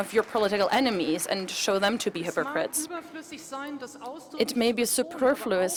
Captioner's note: applause